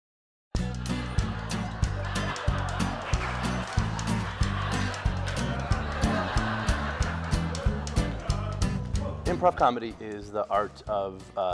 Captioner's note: laughing